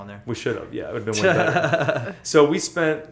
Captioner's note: laughter